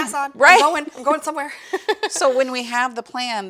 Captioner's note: laughs